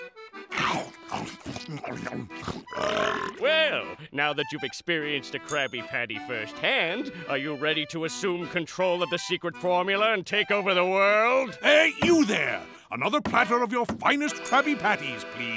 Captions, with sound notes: [scarfing] [burping] Well, now that you've experienced a Krabby Patty firsthand, are you ready to assume control of the secret formula and take over the world? Hey you there, another platter of your finest Krabby Patties please/